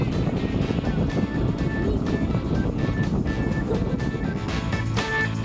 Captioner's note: laughing; biker rock music